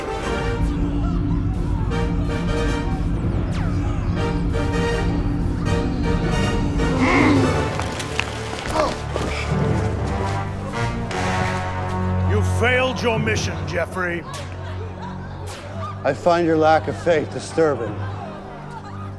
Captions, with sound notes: (force humming) (grunts) (groans) You failed your mission, Jeffrey. - I find your lack of faith disturbing.